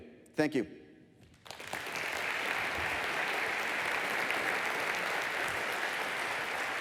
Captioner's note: applause